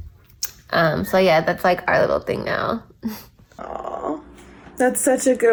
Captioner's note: giggles